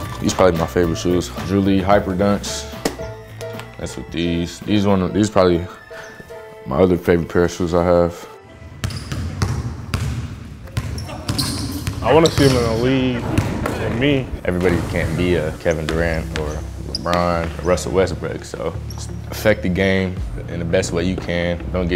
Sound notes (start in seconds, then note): 8.8 dribbling sounds